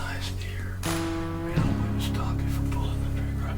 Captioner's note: whispering